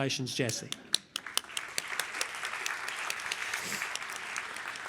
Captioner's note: applause